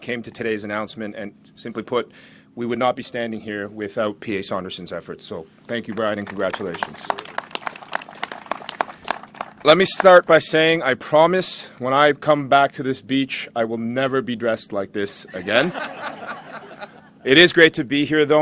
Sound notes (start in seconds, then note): 11.0 applause